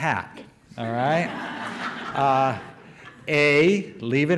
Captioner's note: audience laughter